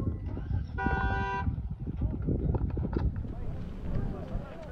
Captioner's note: loud shouting & honking